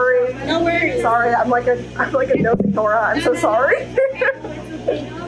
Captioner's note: chuckles